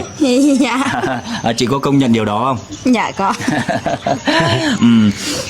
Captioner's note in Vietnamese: tiếng cười